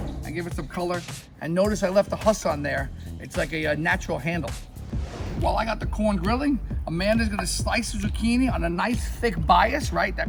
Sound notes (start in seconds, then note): 4.4 air whooshing